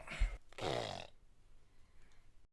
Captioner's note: makes fart sounds